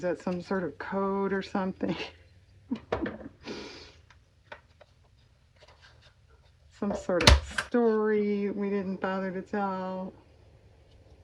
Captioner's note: laughs